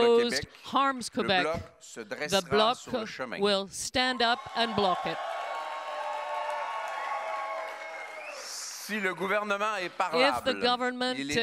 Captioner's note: cheers and applause